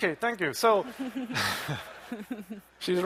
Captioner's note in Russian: смех